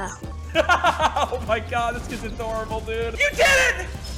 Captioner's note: CouRage laughs